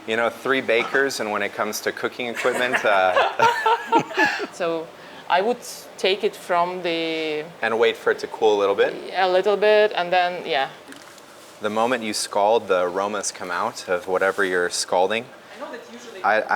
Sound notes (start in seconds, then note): 2.3 all laugh